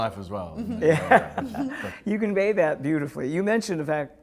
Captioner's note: laughs